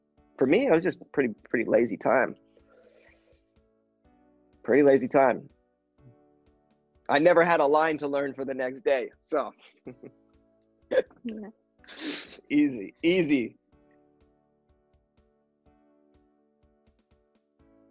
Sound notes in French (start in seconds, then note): 9.9 rire